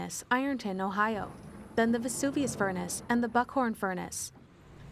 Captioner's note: furnace bellowing, quarry rustling